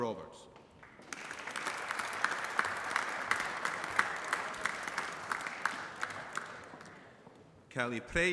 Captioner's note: applause